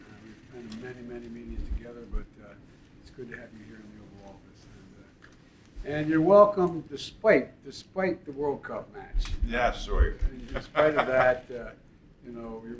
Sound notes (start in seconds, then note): 10.5 laughs